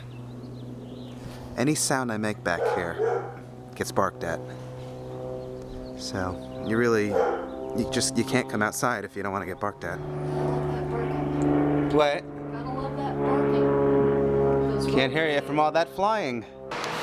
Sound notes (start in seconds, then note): 2.5 Sasha barking; 10.3 airplane engine